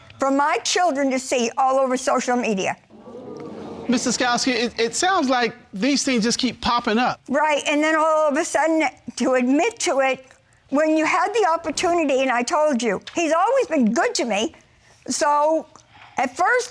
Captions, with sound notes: for my children to see all over social media? (AUDIENCE EXCLAIMING) Ms. Daskoski, it sounds like these things just keep popping up. Right, and then all of a sudden to admit to it when you had the opportunity, and I told you. He's always been good to me. So,